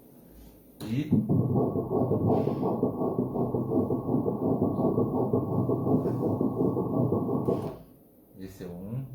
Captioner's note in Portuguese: batidas do coração